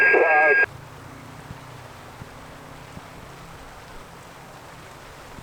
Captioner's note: rain splashing